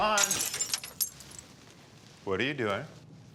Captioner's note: glass breaks